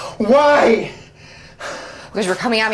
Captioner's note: pants